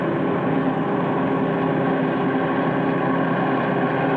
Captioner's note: sound of tractor motor whurring